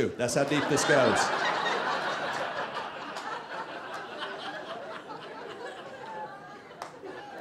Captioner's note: audience laughing